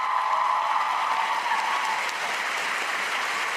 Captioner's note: cheers and applause